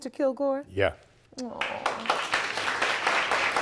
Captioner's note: audience applauding